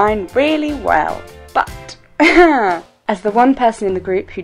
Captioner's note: laughs